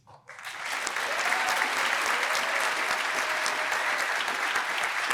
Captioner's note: applause